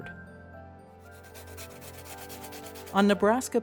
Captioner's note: pencil scratching